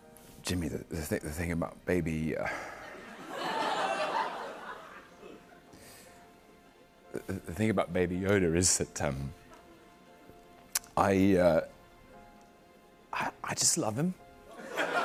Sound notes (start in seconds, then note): 2.5 sighs; 2.8 laughter